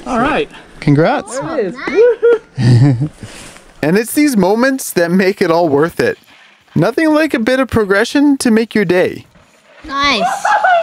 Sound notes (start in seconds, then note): 1.9 laughter